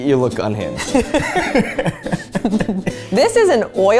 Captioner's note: both laugh